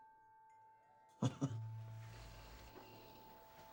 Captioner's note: chuckles